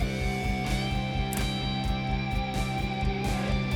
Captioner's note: clipping sound